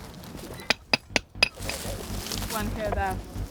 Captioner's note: tool tapping